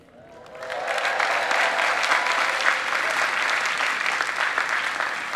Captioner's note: people cheering